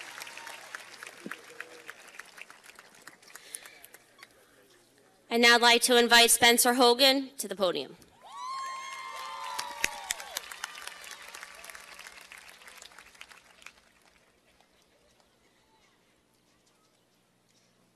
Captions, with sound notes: - And now I'd like to invite Spencer Hogan to the podium. (cheers and applause)